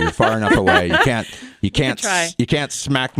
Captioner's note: laughter